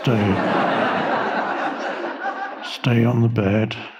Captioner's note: audience laughing